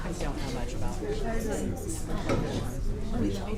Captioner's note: audience Chatting